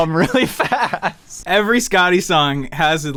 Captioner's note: everyone laughs